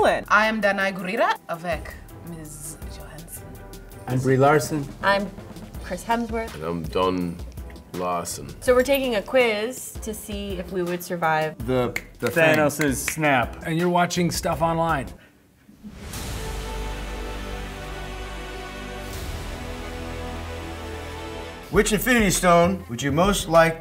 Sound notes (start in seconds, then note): 12.4 snapping; 18.5 dramatic music